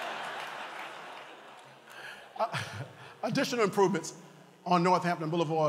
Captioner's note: laughter